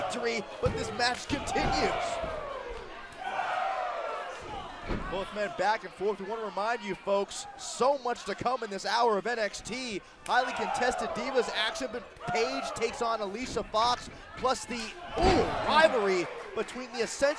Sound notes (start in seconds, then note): 5.7 crowd cheering